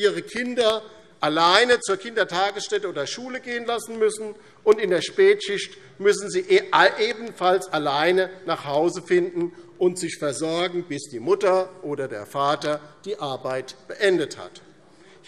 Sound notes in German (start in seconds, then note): none